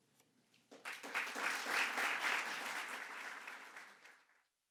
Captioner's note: audience clapping